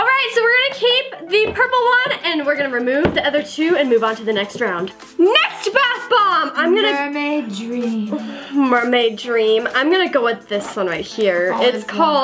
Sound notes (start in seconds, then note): none